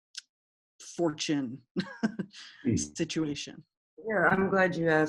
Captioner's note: chuckles